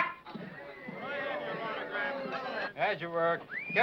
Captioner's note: men chattering